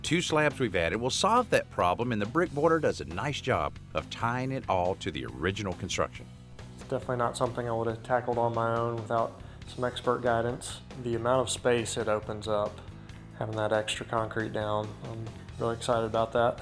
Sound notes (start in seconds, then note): none